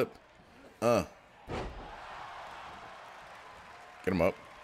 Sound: applause

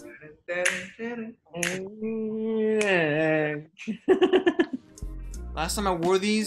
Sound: humming theme song

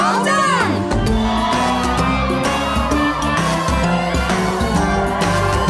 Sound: friends cheering

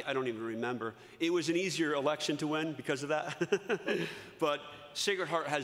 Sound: laughs

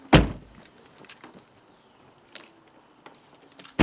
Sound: door thuds

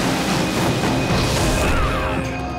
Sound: screaming

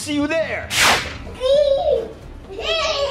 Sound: electric sound; giggling

